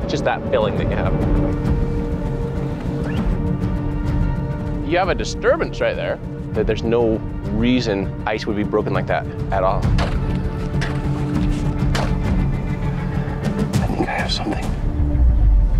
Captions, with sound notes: Just that feeling that you have. You have a disturbance right there. That there's no reason ice would be broken like that at all. (ice crunching) (tense expectant music) We may have something.